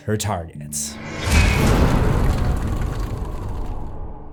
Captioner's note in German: impact